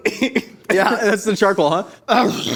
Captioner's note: both coughing